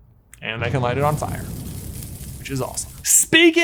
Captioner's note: fire sizzles; drum booms